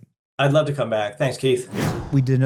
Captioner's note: air whooshing